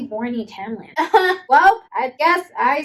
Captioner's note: laughing